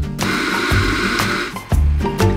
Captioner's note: hissing; cozy music